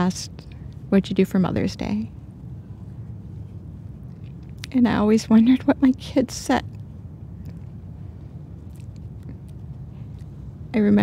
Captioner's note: voice breaking